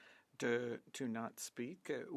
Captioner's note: speaking French